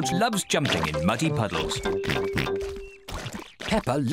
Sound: oinks

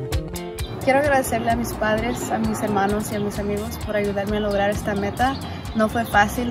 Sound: speaks in foreign language

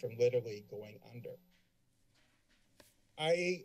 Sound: silence

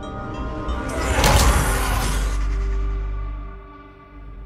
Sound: ominous music; monster growls

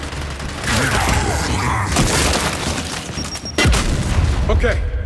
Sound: gunfire; gunfire

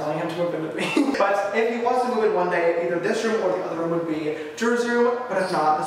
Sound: laughs

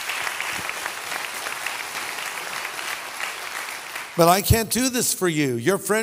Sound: audience applause

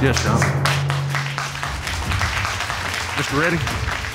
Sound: applause

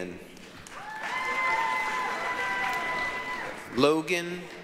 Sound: applause, cheering

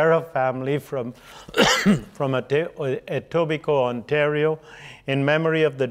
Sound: coughing

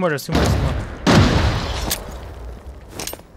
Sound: gunshot

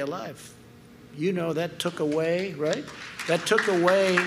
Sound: applause

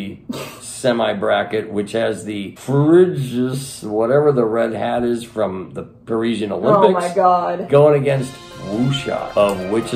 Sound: slurring; action music

